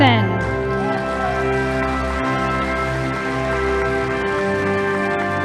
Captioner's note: audience applauding